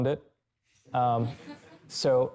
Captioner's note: chuckling